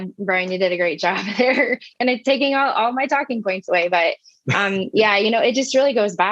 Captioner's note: laugh